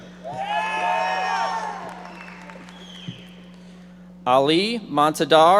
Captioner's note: audience members shouting